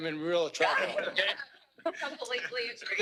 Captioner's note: laughter